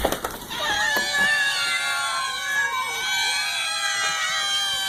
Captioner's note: cats meowing